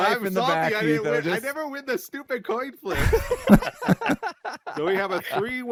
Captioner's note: laughs